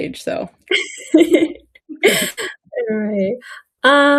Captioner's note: people laughing